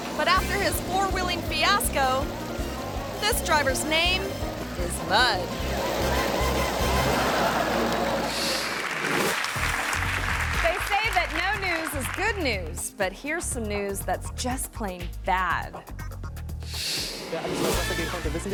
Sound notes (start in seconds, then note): 5.7 mud spattering; 5.7 playful music; 7.3 hands clapping; 7.5 audience laughing; 8.2 graphic whooshes; 17.1 reporter speaking in a foreign language